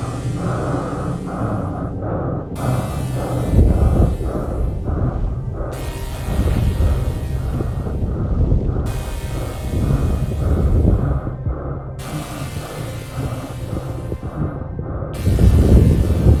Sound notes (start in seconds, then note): 0.1 breathing hard continues; 7.6 eerie music continues